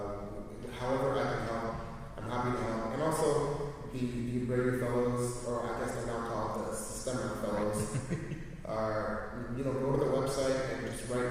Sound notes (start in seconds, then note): 7.5 chuckles